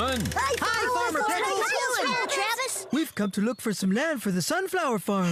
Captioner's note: all Shout Greeting